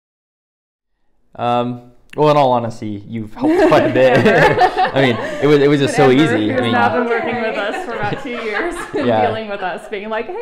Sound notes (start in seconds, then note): 3.4 laughs